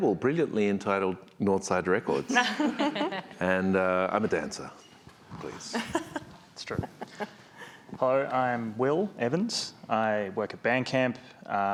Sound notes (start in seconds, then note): 2.4 crowd laughs; 5.5 panelist laughs